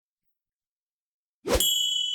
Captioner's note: logo whooshing; logo dings